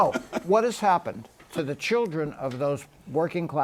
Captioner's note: laughs